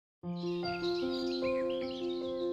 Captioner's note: birds chirping